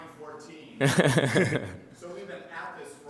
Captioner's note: chuckling